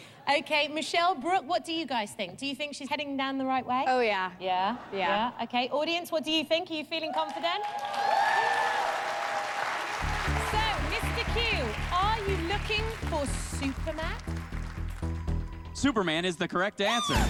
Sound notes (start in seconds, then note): 8.1 cheers and applause